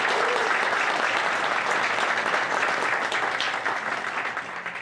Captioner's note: audience applauds